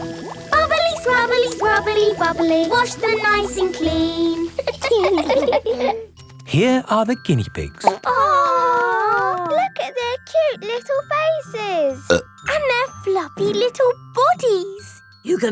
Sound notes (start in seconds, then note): 4.4 laughing; 7.8 plop